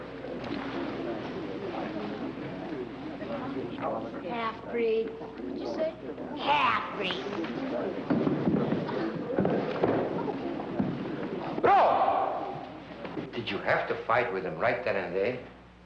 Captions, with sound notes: (congregation chattering indistinctly) - Half-breed. - What you say? - Half-breed! (boys scuffling) - Roy! Did you have to fight with him right there and then?